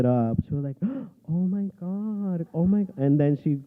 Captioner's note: gasp